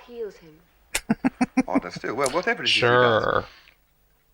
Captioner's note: laughing